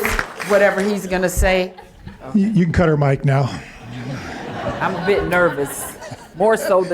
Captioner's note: applause